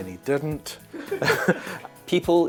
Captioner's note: off screen laughter